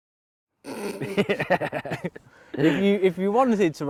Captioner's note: laughter